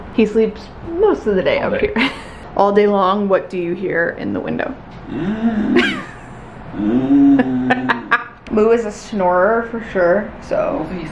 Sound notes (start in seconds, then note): 5.2 snores; 5.7 laughs